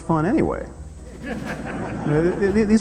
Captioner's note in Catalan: rialles